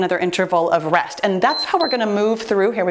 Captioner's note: timer beeps